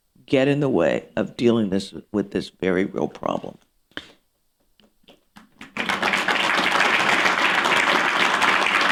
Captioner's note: applause